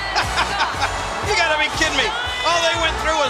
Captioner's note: chuckles